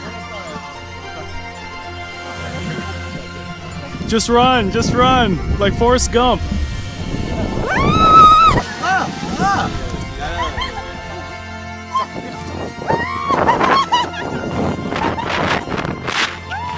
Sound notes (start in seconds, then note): 0.2 happy music; 7.6 screaming; 9.2 man speaking Mandarin; 11.8 screaming and laughing